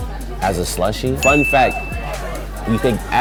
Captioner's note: ding